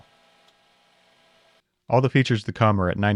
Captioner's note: lathe whirring